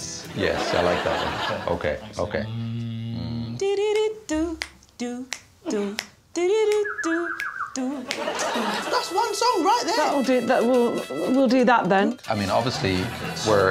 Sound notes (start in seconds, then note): 6.3 hums; 6.7 whistles